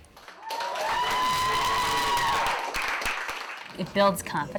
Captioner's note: cheers and applause